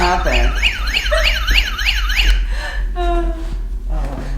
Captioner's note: fire alarm